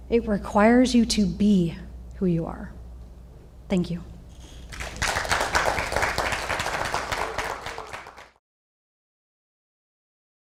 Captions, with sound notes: It requires you to be who you are. Thank you. (audience applauds)